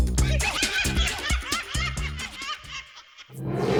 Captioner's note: laughing